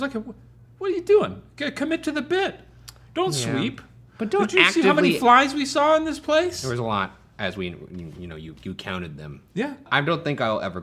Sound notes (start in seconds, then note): none